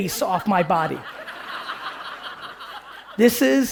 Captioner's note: audience laughing